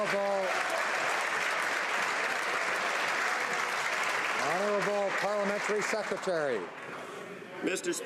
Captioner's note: some Applause